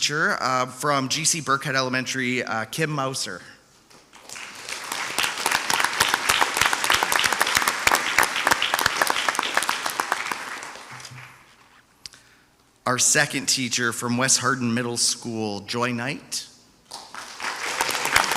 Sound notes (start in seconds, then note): 4.2 audience applauds; 16.9 audience applauds